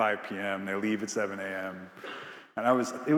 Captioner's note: attendee coughing